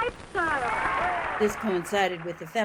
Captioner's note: cheering